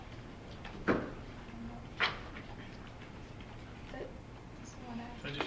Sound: student faintly speaking

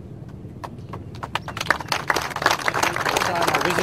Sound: applause

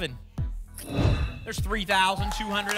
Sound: whoosh

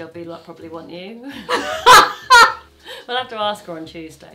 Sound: laughs

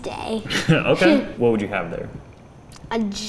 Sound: laughs

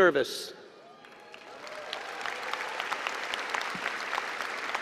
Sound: applause and cheering

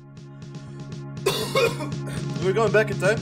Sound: laughter

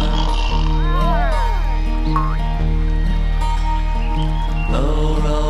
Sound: snoring; girls roaring

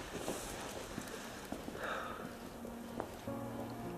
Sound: sighing

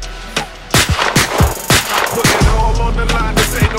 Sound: gunshots

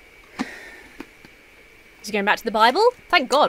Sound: sighs

